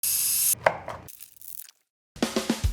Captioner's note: machine whirring; knife chopping; upbeat drum music